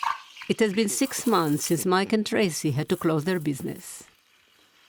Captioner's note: voice-over